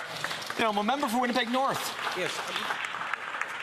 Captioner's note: speaking alternate language